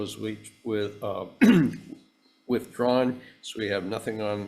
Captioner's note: clears throat